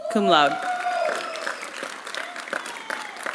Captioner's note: applause